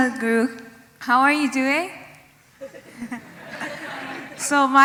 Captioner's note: laughter